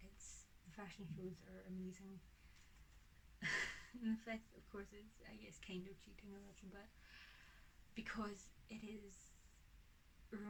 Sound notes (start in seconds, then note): 3.4 laughs